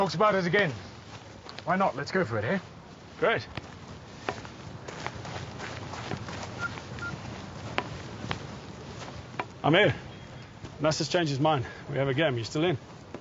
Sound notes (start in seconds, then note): 6.5 beeping